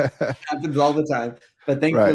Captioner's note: laughing